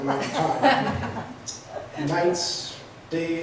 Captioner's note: laughs